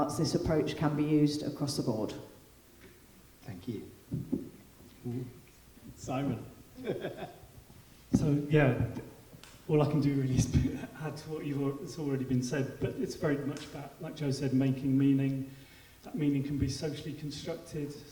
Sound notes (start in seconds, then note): 6.7 laughing